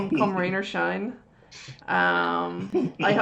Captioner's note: laughs